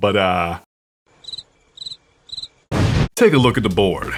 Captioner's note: crickets